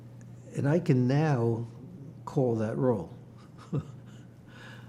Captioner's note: laughing